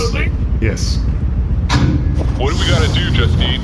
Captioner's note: Bargie’s hatch closes